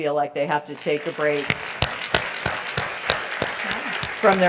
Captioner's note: applause